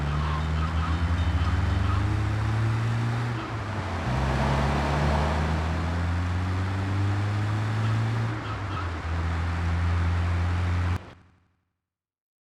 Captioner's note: plane engine roaring